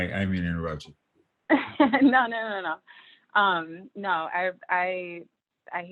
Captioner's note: laughter